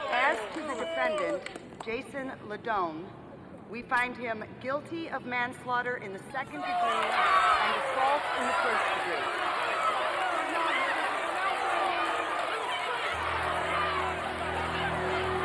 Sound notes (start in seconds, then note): 10.4 crowd cheering and clamoring